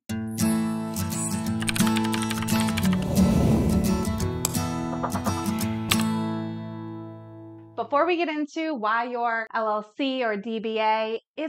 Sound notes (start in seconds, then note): 1.6 keyboard clicking; 1.6 upbeat bright music; 2.7 air swooshing